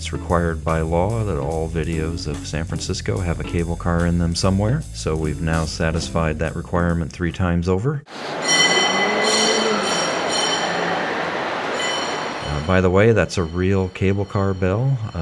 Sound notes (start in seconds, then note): 8.2 cable car bell ringing